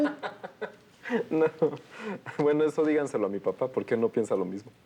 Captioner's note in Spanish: Risas